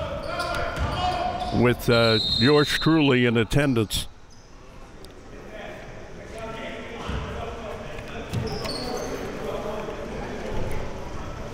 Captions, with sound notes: (whistle blows) With yours truly in attendance. (coaches yelling)